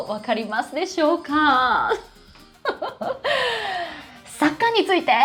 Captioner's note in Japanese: 笑い; 息をのむ音